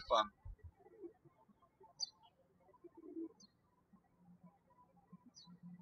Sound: birds chirping

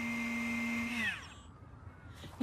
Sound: vacuum machine whirrs and stops

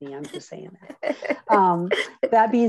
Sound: laughs

